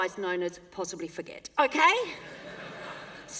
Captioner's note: laughter